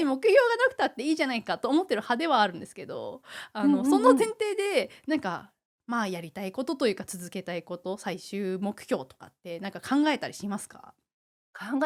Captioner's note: laughs